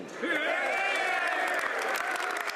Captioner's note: speaking French